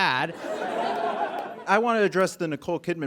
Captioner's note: audience laughs